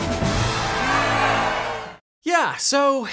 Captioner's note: crowd cheering